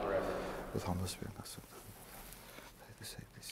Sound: whispering

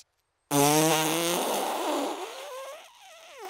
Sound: blows raspberry

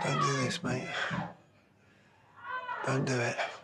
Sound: yelling

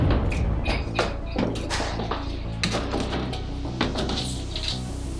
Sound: boom!; grenade hitting floor; door shutting

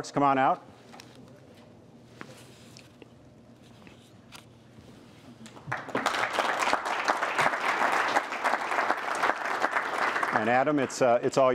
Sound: applause

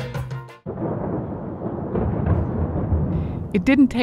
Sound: mellow music; thunderstorms roaring

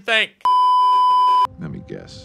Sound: beeeeeep

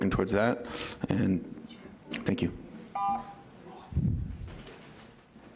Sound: timer beeps

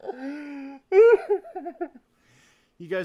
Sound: sobbing exaggeratedly; sobbing intensifies

